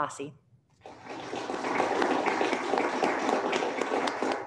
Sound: applauding

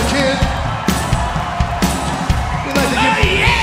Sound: audience cheering

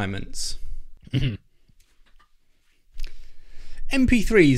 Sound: clears throat

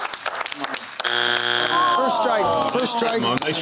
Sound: groaning

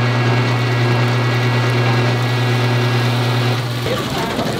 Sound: water dripping

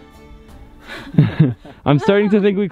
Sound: chuckles

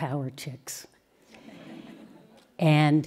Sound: laughter

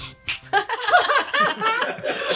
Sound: snaps; laughing

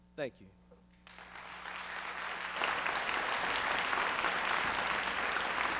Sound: applause

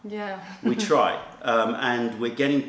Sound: laughter

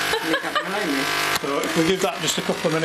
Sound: laughing

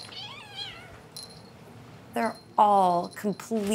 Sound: kitten meows; toy jingles

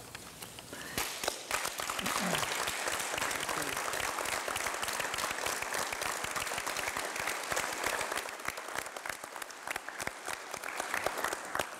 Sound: clapping

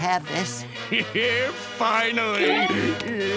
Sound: chuckles

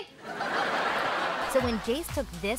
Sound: laughing

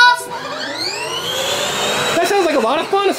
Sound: toy engine roaring

